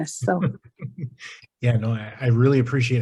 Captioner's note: laughs